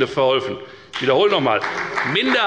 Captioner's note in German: Beifall bei der FDP